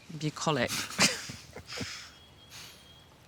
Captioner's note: laughs